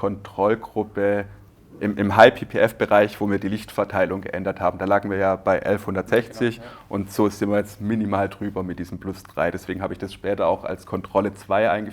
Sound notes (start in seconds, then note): none